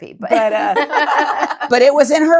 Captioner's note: laughing